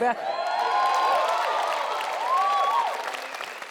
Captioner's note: audience cheers